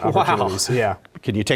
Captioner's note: laugh